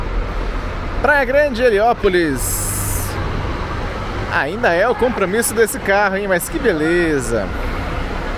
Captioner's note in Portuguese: veículo em trânsito